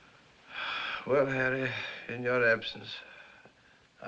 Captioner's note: sighs